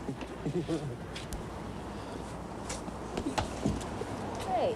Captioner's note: both laughing